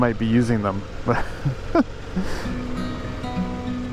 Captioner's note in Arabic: ضاحكاً